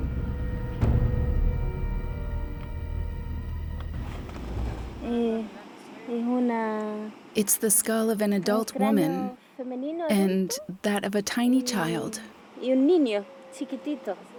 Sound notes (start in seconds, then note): 4.9 speaking Spanish